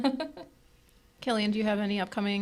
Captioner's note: group laughing